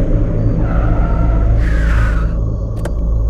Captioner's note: Car halting; Car door opens